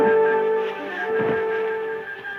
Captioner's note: dramatic music; thuds